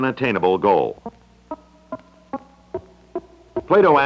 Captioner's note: Electronic audio effect